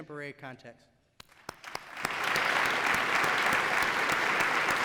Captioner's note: applause